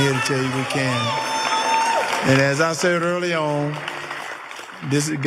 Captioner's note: applause